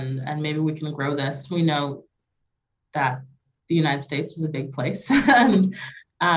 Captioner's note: chuckle